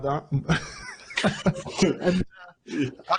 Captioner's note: both chuckling